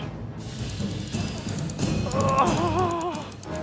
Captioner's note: grunts